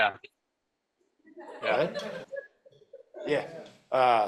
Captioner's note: laughter